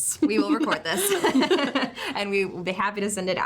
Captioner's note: both laugh